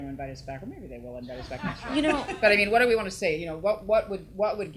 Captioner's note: audience laughs